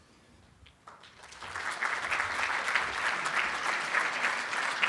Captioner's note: applauding